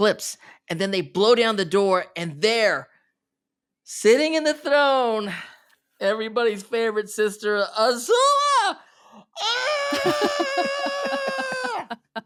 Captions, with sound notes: And then they blow down the door and there, sitting in the throne. Everybody's favorite sister, Azula. [screaming]